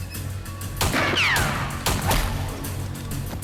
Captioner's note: gun fires